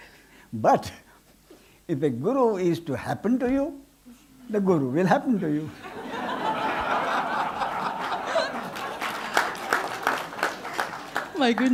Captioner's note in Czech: smích